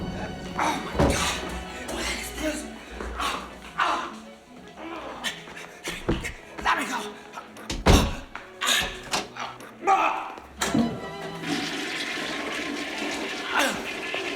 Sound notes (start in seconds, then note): 3.6 Colonel GRUNTS AND GROANS; 10.6 flushes toilet